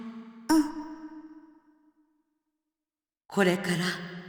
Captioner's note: silence